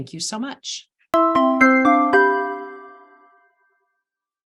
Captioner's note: bells chiming